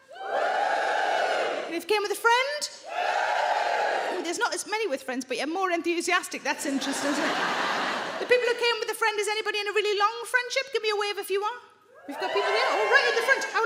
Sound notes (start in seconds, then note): 0.0 audience woos; 2.8 audience woos